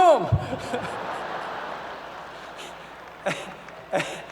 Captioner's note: laughter